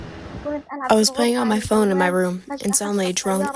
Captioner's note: through translator